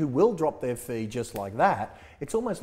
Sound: snaps fingers

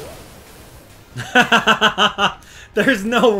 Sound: laughter

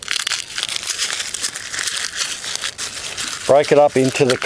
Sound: crunching

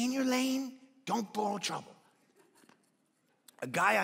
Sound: congregation laughing

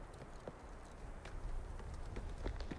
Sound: running footsteps

